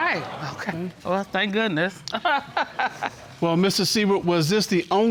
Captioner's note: chuckles